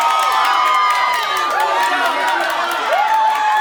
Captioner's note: cheers; screams